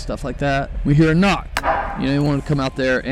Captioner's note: knock echoes